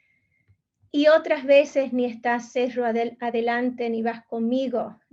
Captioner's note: speaking in Spanish